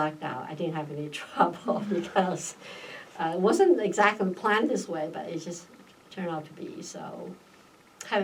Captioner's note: laughs